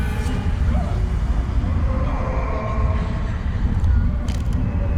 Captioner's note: voices wailing and moaning